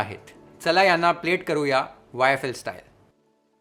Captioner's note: speaks in Marathi; speaks in Marathi